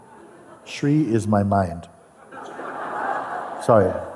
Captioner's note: Lachen